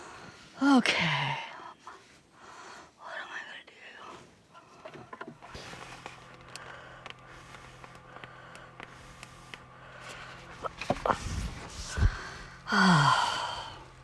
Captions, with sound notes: OK [whispers] What am I going to do? [sigh of exhaustion]